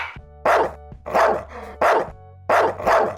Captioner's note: dog barking